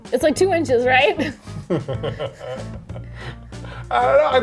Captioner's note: laughing